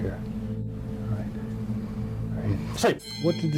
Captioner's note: bell ringing